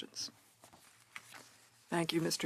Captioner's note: speaking French